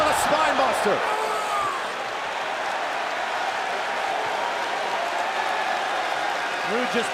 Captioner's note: crowd cheering